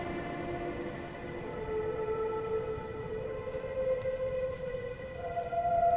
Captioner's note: none